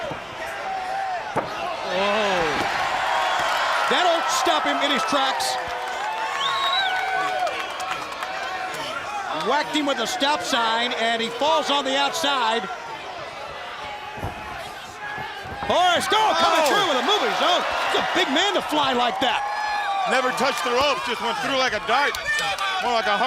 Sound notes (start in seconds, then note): 2.5 crowd cheering; 20.9 crowd cheering